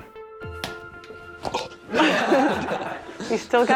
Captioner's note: laughter